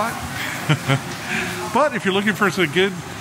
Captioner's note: laughing